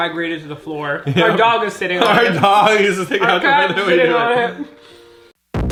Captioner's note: giggling